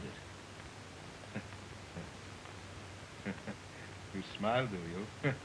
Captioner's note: chuckling softly